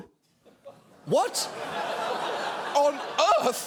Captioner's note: audience laughing